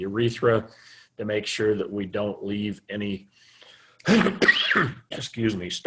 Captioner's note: coughing